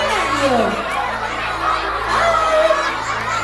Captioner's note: excited audience